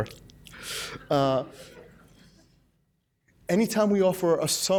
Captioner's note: laughs